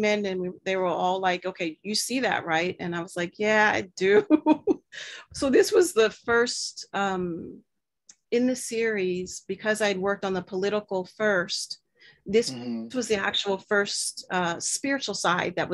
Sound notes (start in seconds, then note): 4.2 chuckles